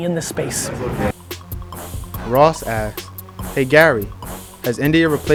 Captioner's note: voiceover